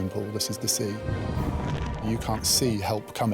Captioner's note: water whooshing; water gurgling